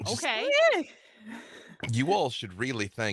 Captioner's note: Niko hums